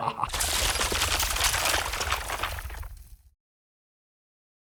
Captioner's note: evil laughing; rock crackling